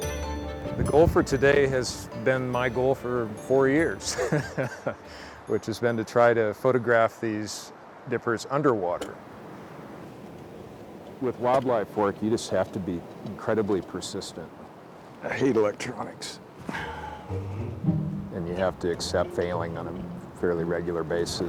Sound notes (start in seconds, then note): 4.0 laughing; 16.6 sighs